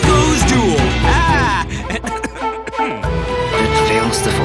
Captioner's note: cough